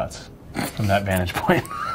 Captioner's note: laughs; Walker laughing